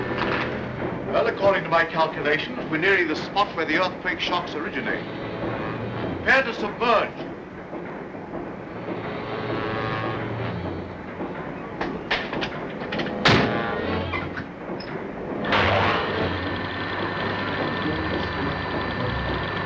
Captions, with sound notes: Well, according to my calculations, we're nearing the spot where the earthquake shocks originated. Prepare to submerge. (machines whir)